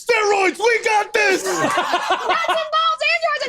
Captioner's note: laughs